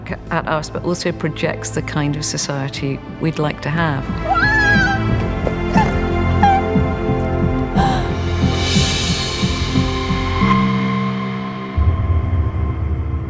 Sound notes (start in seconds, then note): 4.2 crying